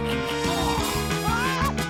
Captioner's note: exclaims; groans